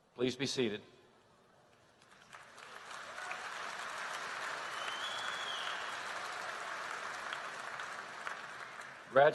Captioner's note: applause